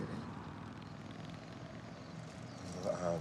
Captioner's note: motorcycle engine buzzing